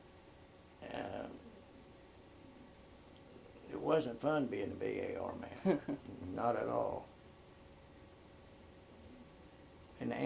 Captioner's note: laughs